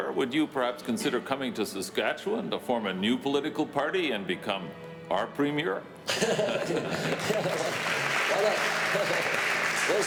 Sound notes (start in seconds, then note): 6.1 Rene laughing; 6.9 audience applauding